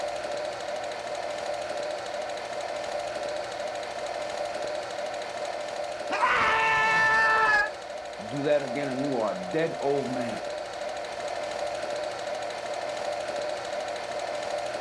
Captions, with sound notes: (screaming) - You do that again and you are a dead old man. (projector clicks)